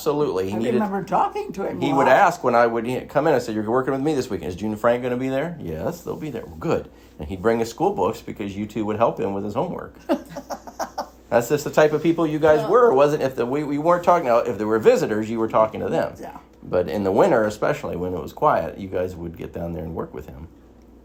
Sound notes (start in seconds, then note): 10.0 chuckles